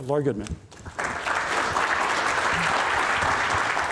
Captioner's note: applause